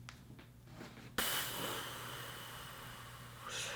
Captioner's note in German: ausatmen